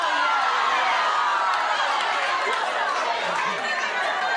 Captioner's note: audience outrage